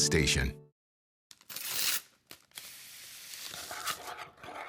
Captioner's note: packet ripping; spoon scraping in bowl